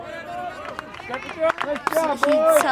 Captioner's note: crowd cheering